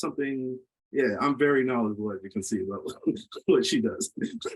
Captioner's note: laughs